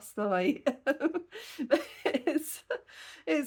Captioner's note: laughing